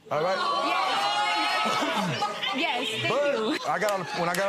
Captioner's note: audience exclaiming